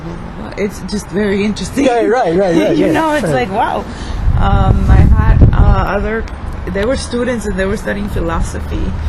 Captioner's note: laughs